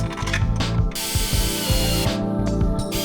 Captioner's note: bolt rattles and clicks; air-powered drill